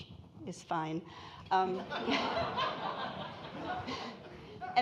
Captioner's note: audience laughing